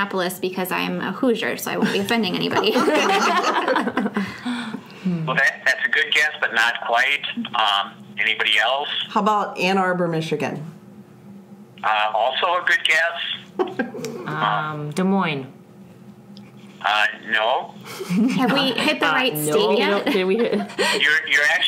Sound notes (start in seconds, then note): 5.0 laughs